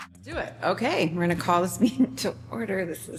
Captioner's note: laughter